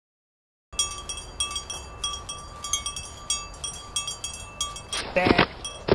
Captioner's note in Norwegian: sauebjellen ringer, vinden suser; fall, knekk og steiner som faller